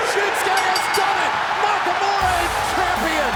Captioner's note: bell rings